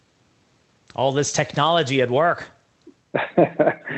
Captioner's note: laughs